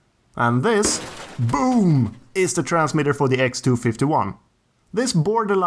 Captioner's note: boom!